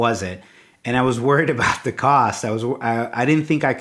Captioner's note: chuckles